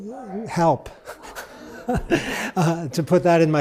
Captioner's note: laugh